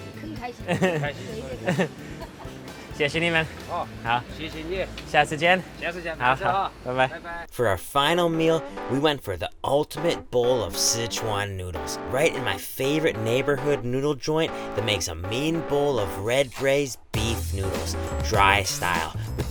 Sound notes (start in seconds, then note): 7.7 voiceover